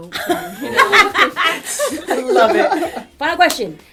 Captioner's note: laughter